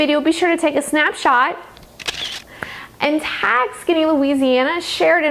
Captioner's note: camera clicking